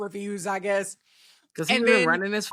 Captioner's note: beep